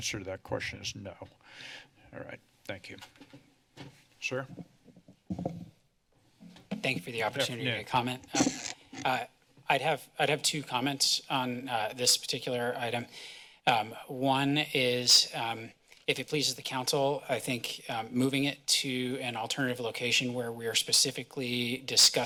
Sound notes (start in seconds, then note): 8.2 mic noise